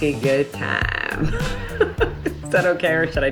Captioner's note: laughs